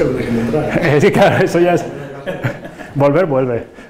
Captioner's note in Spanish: risas